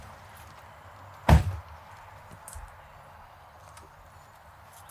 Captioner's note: door slams